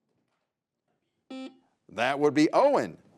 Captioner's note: buzzer buzzes